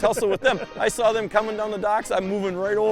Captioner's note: laughs